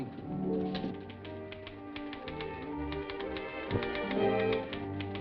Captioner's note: teletype clacking; dramatic music